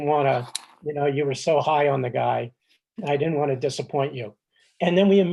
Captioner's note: none